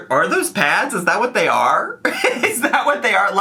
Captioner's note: laughs